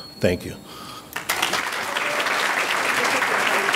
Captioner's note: audience clapping